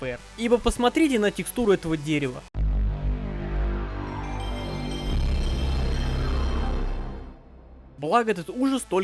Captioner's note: PS1 startup